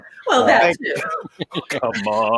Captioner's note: laughs